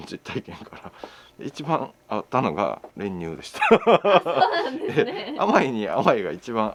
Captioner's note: laughs